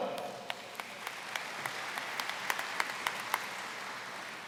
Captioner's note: applause